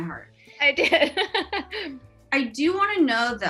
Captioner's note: laughs